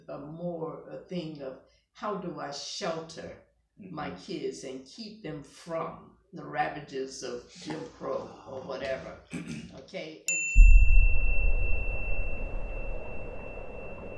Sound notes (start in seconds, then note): 10.6 beep; 10.6 wind blowing